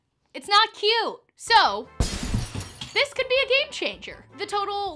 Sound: glasses shatter

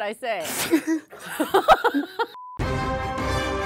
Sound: both laughs; thrilling music

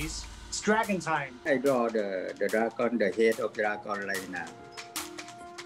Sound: foreign speaking

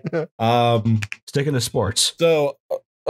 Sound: laughter

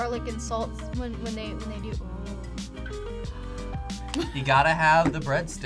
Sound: gasps

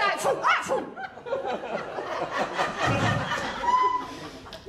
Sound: laughter

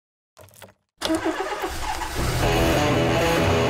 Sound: engine Starting Sound

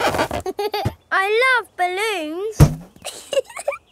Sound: chuckles

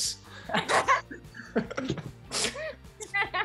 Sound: all laugh

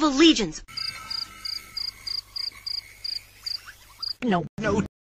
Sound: crickets chirping

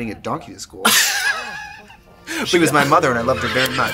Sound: Katya laughs

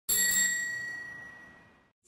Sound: bicycle bell ringing

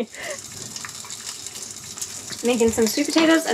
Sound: food sizzling

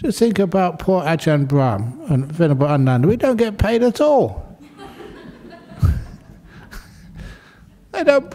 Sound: laughter

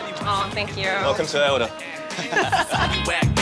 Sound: laughter

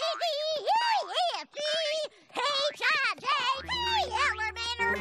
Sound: laughs

